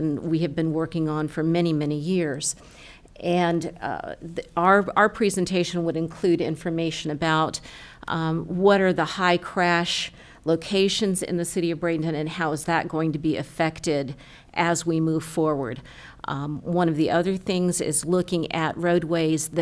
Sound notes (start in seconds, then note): none